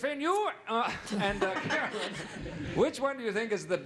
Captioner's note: speaking normally